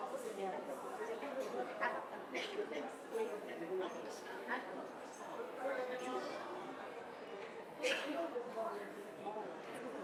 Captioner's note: people chattering